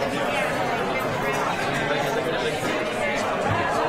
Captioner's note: chattering